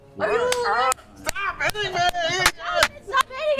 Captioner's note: yells